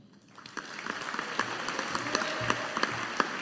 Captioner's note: audience applauding